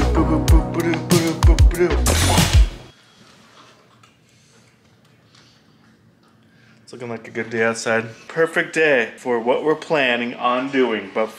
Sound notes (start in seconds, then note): 0.0 humming; 2.0 curtain flipping abruptly